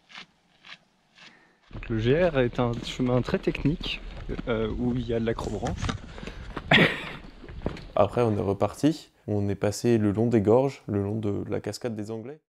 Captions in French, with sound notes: Donc le GR et un chemin très technique où il y a.. de l'accrobranche (rires) Après on est repartis, on est passés le long des gorges, le long de la cascade des Anglais..